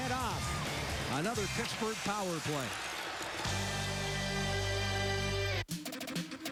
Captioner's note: crowd noise